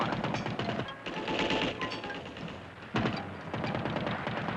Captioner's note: rapid gunfire